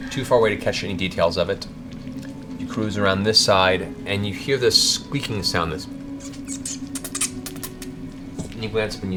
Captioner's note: squeaks